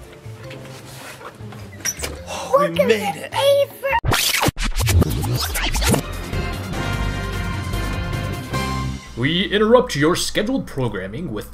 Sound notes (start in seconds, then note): 4.0 video rewind sound effects